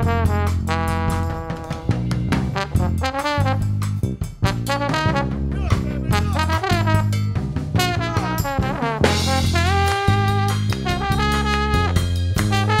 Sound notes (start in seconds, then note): 10.4 hands clapping